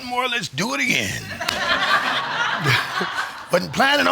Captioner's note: audience laughing